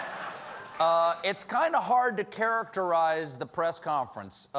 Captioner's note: laughter